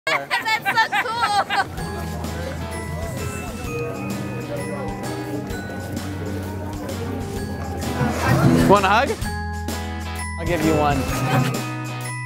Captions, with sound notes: - (laughs) That's so cool! - Want a hug? I'll give you one.